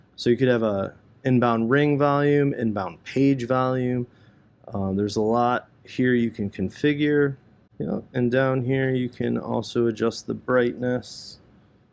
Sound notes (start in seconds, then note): none